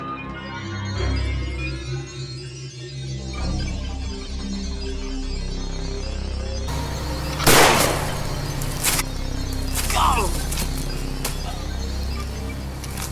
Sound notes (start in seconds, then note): 7.3 gunshot; 9.8 groan